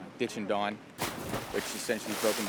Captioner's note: water splashes